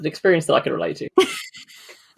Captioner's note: laughs